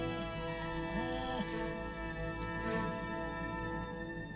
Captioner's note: Beast whines